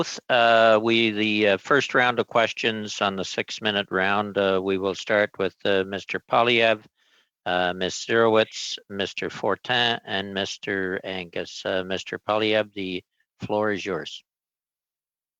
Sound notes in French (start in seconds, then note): 6.3 voix de l'interprète